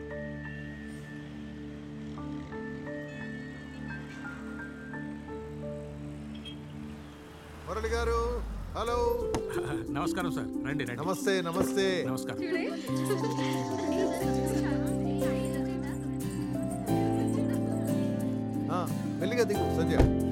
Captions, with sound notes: Mr. Murali... Hello. Namaste! Come.. come... - Namaste! - Namaste! (Indistinct chatter) Careful, Sandhya.